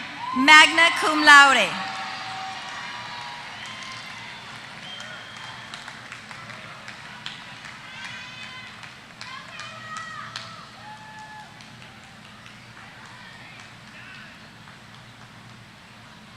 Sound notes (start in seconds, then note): 1.6 applause